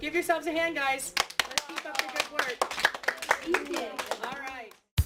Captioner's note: students clap